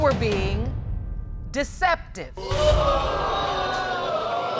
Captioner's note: audience gasps